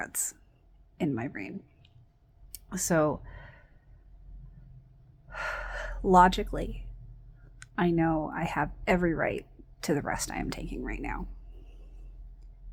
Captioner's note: sighs